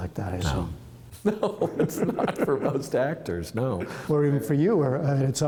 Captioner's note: laughter